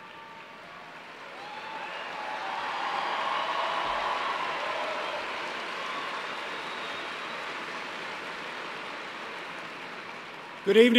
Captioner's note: applause